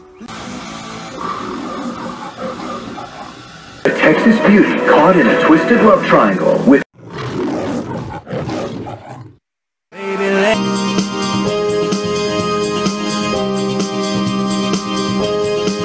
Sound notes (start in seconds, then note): 0.3 Leo the Lion roars on TV; 4.4 on TV; 6.9 Leo the Lion roaring